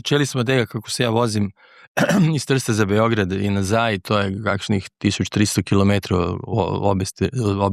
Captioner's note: clears throat